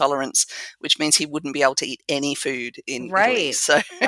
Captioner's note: laugh